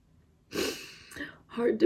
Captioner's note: sniffles, inhales deeply